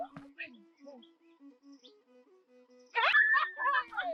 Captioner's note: whispering